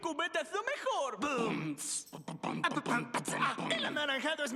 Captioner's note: beat boxing